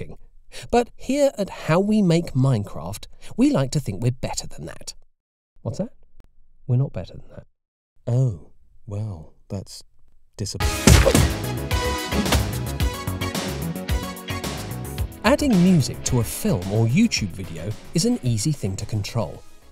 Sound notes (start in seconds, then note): 5.1 off-mic